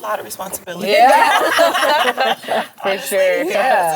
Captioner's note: all laugh